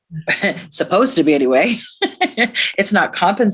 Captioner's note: laughs